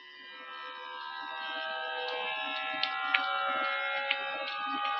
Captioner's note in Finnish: Aplodeja